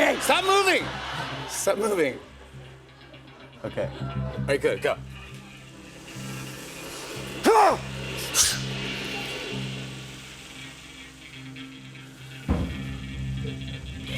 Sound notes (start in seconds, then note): 7.4 grunts